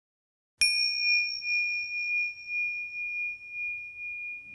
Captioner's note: bell dinging